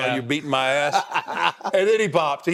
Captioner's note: Cody laughing